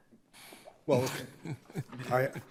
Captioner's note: justices laughing